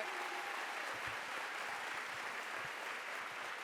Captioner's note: applause